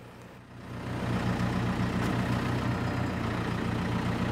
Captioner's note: engine rumbling